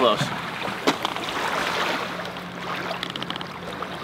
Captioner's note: water whooshing